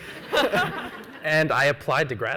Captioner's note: laughs